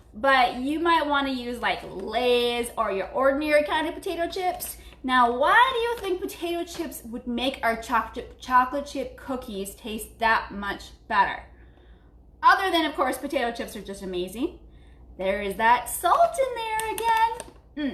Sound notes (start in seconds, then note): none